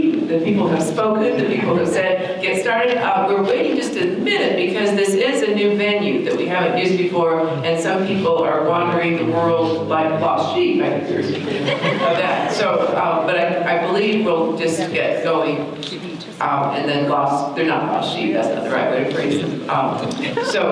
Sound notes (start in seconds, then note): 11.3 audience laughter